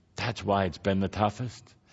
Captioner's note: none